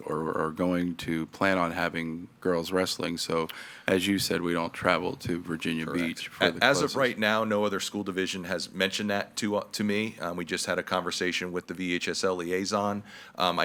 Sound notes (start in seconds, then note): 6.4 speaks faintly